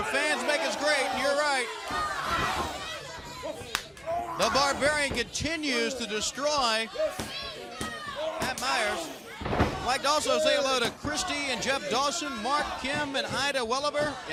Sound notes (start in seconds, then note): 5.5 crowd chatter